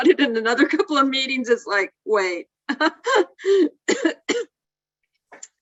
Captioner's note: laughs